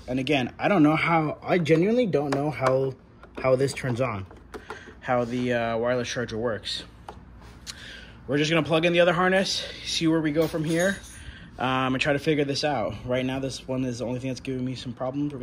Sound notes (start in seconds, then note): none